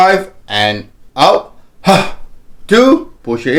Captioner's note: exhales